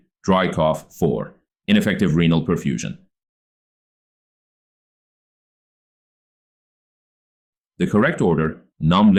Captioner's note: 5-Second Pause